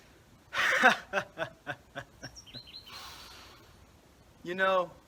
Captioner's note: inhales